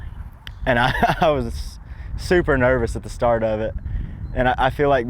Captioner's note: laughs